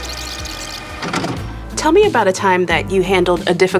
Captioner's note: tape rewinding; tape playing